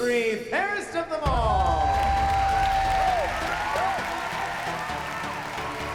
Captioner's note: cheers and applause